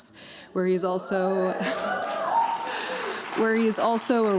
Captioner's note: cheers, applause